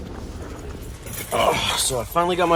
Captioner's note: old man noises